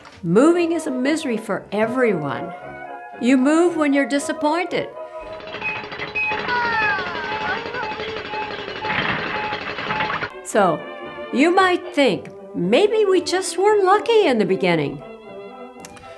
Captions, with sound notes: Moving is Misery for everyone. You MOVE when you’re DISAPPOINTED! [Construction WHISTLE! ...] OooooH!!! [Train Going By] So you MIGHT think.. Maybe we just weren’t L-U-C-K-Y in the Beginning